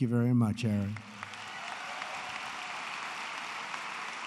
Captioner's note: applause